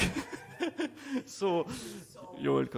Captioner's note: chuckling; audience chuckling